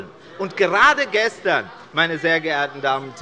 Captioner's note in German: Lachen und Zurufe von der LINKEN